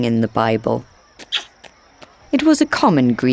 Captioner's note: lips smooching